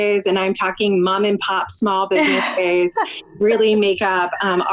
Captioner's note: laughs